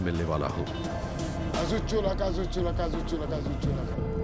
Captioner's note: speaks foreign language